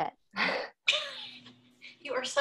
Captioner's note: laughing